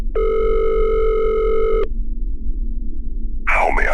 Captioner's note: SFX: Phone rings 2x